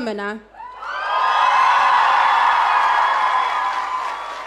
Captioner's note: audience cheering